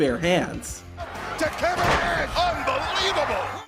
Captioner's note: wrestling ring thuds